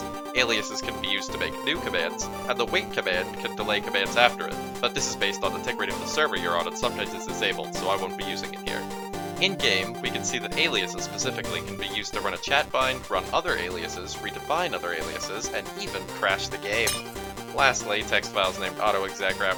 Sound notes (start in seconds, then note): 16.8 Minecraft glass breaking noise